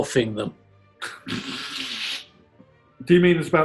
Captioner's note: sniggering